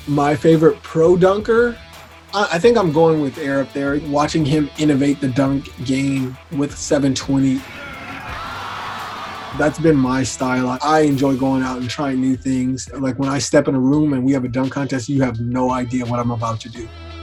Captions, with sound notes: My favorite pro dunker, I think I'm going with Air Up There. Watching him innovate the dunk game with 720. (crowd cheering) That's been my style. I enjoy going out and trying new things. Like when I step in a room and we have a dunk contest you have no idea what I'm about to do.